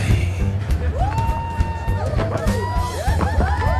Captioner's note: audience whooping